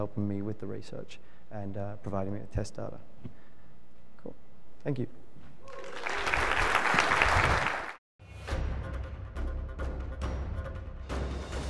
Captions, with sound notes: for helping me with the research, and providing me with test data. Cool, thank you. (crowd claps) (dramatic music)